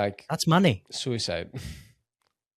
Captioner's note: laughs